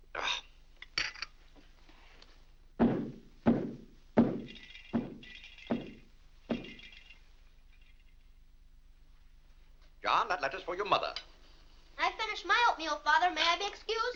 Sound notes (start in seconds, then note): 0.1 Mr. Day grumbles; 2.7 foot stomping; 4.2 lights rattling